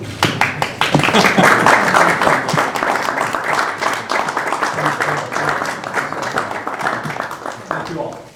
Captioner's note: applause